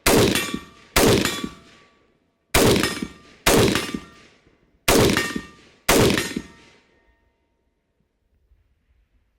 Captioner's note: gunfire continues to plink against steel